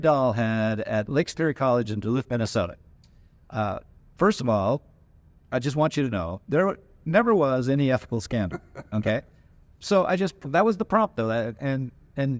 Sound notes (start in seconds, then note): 8.3 laughs